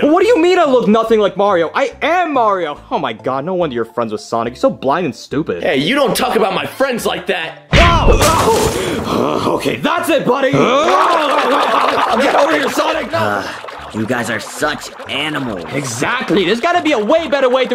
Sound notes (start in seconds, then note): 10.5 both grunting; 13.3 Tails sighs